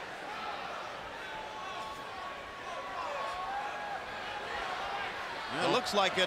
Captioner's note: crowd chatter